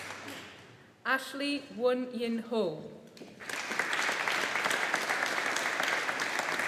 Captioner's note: audience applauding